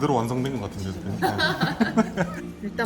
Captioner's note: laughing